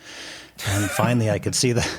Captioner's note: giggling